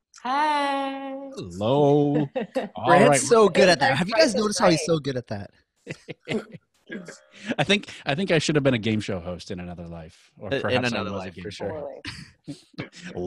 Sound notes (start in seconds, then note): 5.9 chuckling